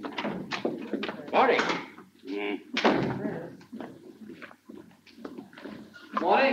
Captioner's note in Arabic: بلاين يتذمر